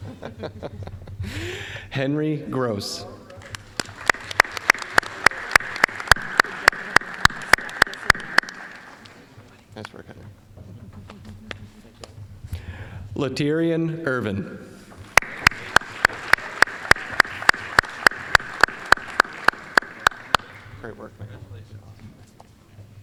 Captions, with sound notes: (chuckling) Henry Gross. (applause) Nice work, Henry. Laterrian Irvin. (applause) Great work, man, congratulations.